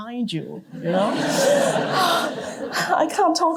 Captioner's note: laughter